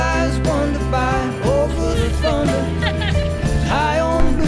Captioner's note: laughs